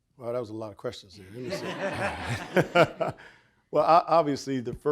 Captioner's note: audience laughing